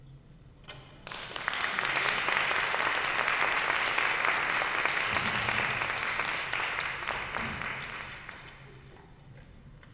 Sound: applause

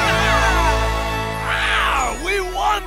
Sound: cheering; roaring

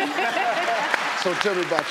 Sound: clapping

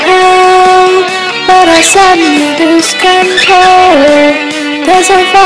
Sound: bird sings

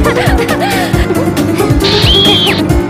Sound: evil laughter; screaming

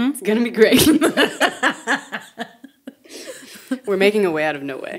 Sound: speakers laughing

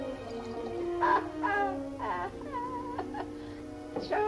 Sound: laughing

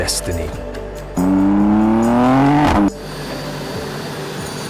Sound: car roaring; fuel whooshing

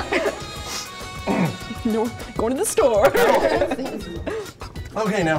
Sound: laughter; laughter

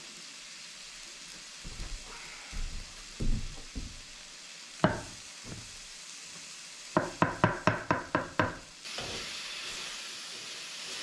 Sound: water running

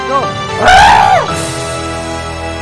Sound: screams in agony

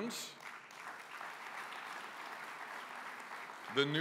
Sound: applause

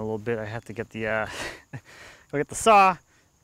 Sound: laughs

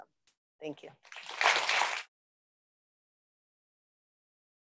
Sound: audience applauding

